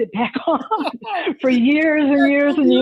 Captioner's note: laughs